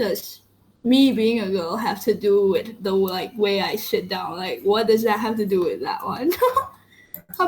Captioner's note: laughs